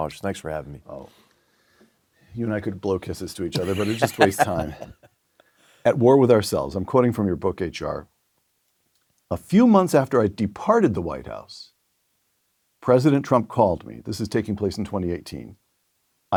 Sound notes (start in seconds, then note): 3.5 laugh